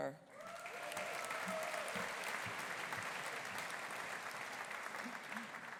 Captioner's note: audience applauding; audience cheering